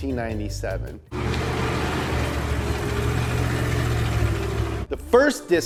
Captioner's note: car engine rumbles